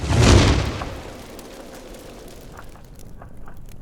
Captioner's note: bang